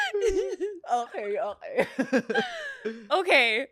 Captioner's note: laughs